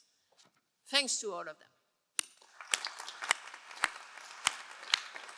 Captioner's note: all applauding